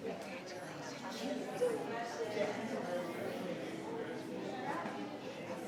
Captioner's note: people chattering